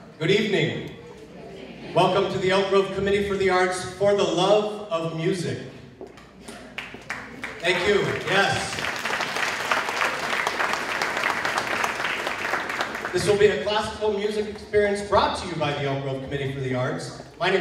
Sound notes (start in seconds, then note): 8.8 applause